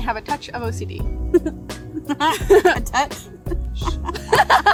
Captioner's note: laughs